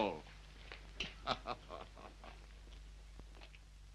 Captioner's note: laughs